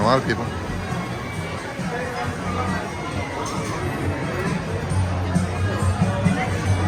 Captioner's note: people chattering; upbeat music